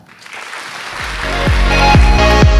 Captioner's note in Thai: เสียงปรบมือ